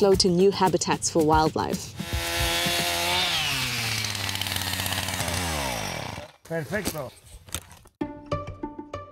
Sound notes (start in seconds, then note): 2.0 chainsaw roars